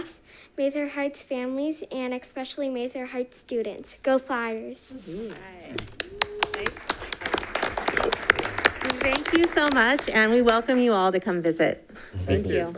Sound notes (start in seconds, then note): 8.0 all applauding